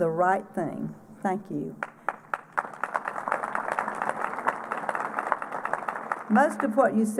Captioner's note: applause